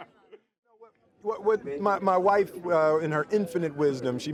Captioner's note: laughs